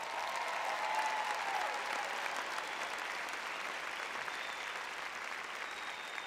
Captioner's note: applause